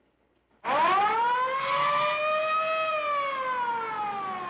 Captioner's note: police sirens blaring